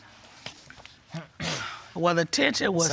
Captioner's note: clears throat